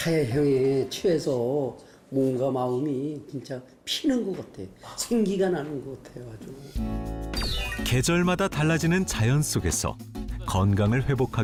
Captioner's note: voiceover